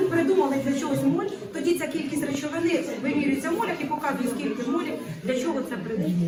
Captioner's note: teacher speaking Ukrainian